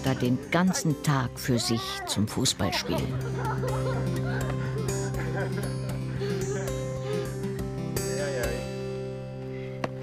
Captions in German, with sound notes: den ganzen Tag für sich zum Fußballspielen. (Lachen) Jeijei. (Musik verklingt.)